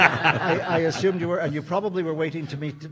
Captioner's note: audience laughing